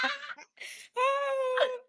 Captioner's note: laughing